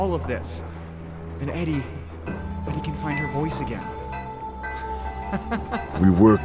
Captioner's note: laughing in happiness